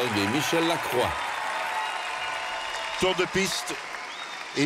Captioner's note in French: applaudissements